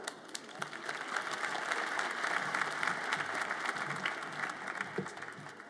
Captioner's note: audience applauds